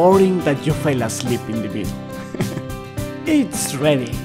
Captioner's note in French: rires